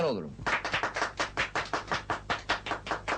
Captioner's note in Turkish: alkiş sesleri̇